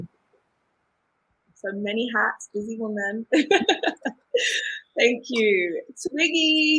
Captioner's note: laughs